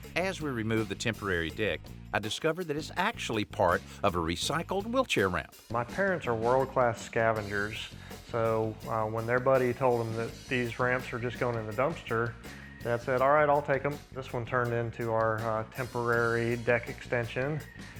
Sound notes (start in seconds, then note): none